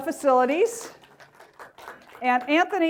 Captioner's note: applause